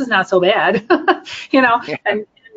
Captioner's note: laughing